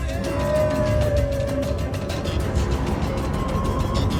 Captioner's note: footsteps rumbling; animal vocalizing